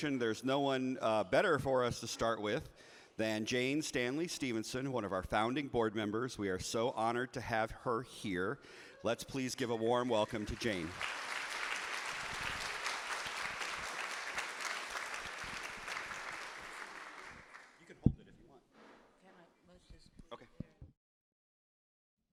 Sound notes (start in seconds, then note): 10.0 audience applauding